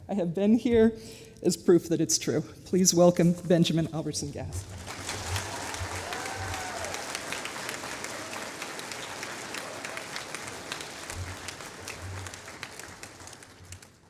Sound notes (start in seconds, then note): 4.6 applause